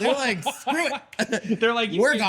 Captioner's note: laughing